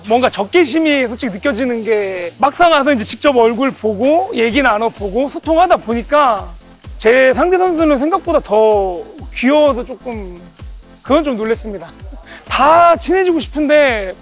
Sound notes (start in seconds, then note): 11.8 laugh